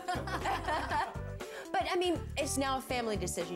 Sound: laughter

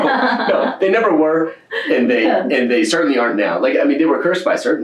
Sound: laughter

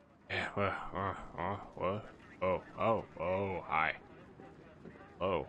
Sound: groggy noises

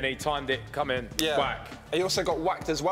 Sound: smacking

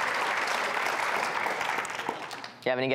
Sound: audience clapping

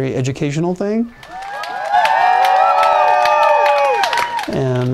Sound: applause, cheering

